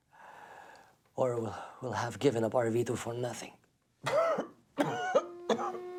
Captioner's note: coughs